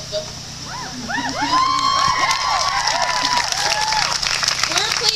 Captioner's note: clapping